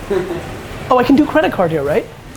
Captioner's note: laughs